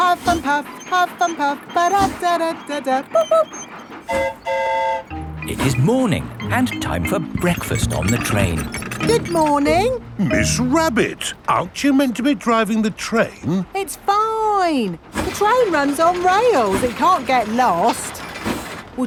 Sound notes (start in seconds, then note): 4.0 train whistle toots; 4.0 mimics train whistle